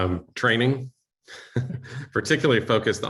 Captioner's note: chuckle